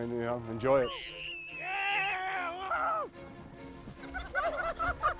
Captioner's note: children squeal; upbeat string music; laughs